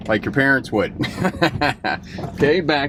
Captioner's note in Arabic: يضحك